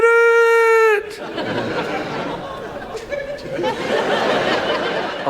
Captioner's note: audience laughs